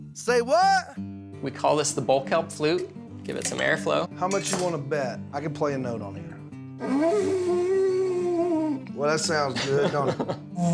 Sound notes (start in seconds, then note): 6.8 horn sound; 9.5 laughing